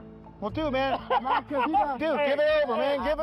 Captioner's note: laughter